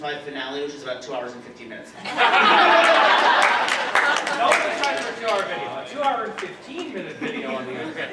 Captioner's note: laughter